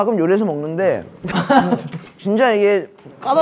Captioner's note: laughing